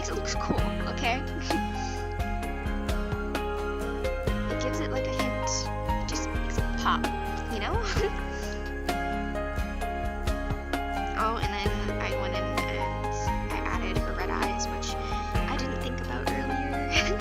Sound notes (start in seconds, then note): 7.7 giggle